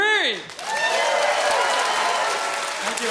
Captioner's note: audience cheers